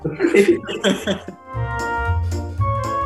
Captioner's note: group laughs; playful, cheery music